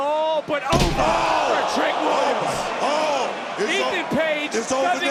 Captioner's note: crowd gasps